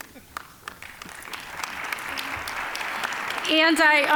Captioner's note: applause